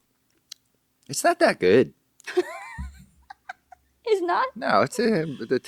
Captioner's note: laughing